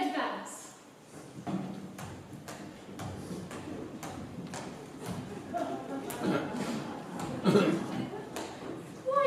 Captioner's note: marching footsteps